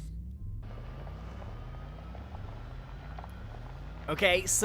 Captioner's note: car engine roaring